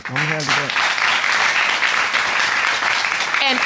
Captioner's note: audience clapping